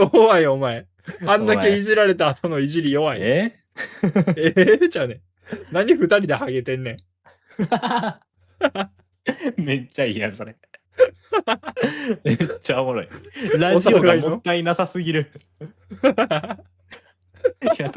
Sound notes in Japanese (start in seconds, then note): 3.8 笑い; 10.6 笑い; 17.3 笑い